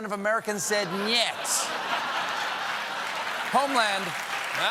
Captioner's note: laughter; applause